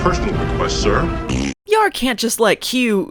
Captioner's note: farts